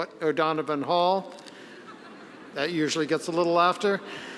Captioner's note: audience laughing